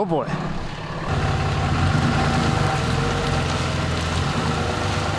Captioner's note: engine revving